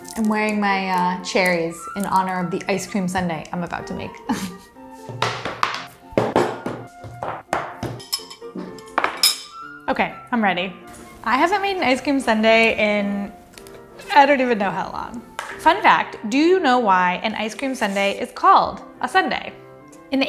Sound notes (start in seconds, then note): 4.2 chuckles; 6.2 objects thudding